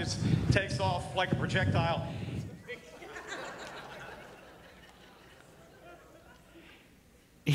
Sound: audience laughing

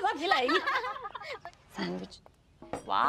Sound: laughing

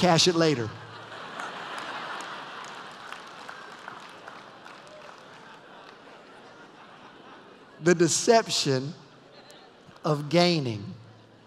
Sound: laughter; more laughter

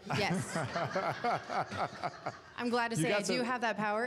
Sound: laughter

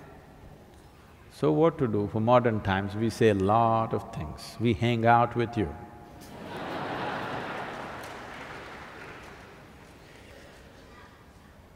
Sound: laughter

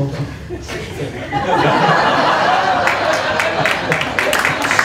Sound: laughter; applause

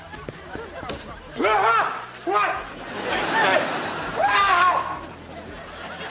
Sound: groaning

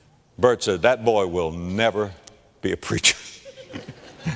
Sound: audience laughter

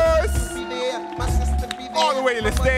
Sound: audience cheering

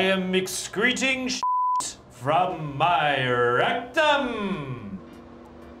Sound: beep

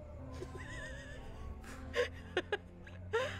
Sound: laughing

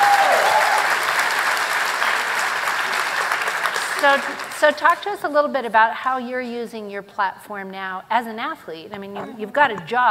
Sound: applause

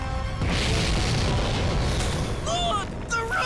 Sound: explosions roaring

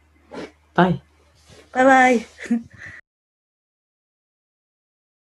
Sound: laughs

